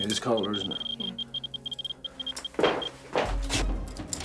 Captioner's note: geiger counter beeps; dramatic music